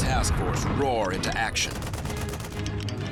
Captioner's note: gunfire